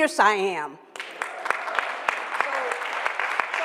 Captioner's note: applause